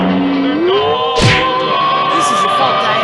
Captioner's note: crash!